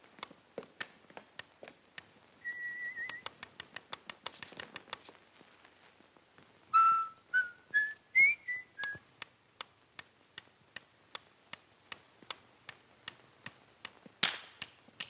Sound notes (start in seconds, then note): 0.9 whistles; 2.9 metronome ticks rapidly; 4.7 whistles; 8.7 metronome ticks up-tempo